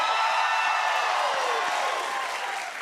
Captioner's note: cheers and applause